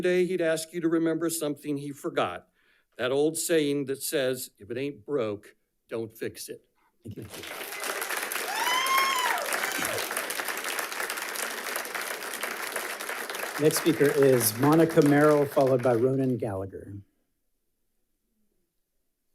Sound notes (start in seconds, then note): 7.7 audience applauding; 8.6 audience cheering